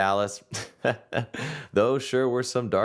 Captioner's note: chuckling